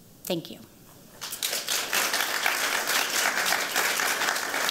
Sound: applause

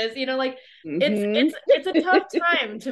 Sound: laughs

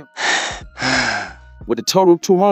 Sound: asthma attack

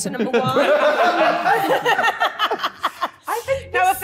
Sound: all laughing

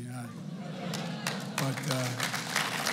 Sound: laughter; applause

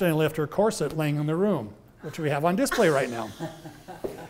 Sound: chuckles; laughs

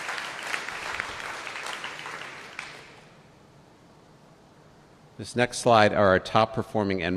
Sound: applause

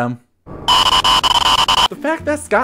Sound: creepy sound

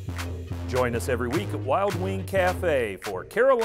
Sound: whooshing; voiceover

